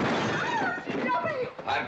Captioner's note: table crashing over; Katherine screaming